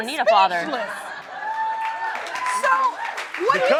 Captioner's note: crowd cheering